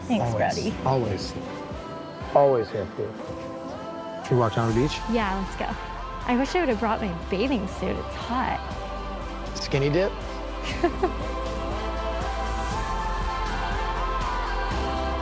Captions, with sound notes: - Thanks, Brody. - Always, always here for you. Should we walk down to the beach? - Yeah, let's go. I wish I would have brought my bathing suit. It's hot. - Skinny dip? (laughs) (upbeat music)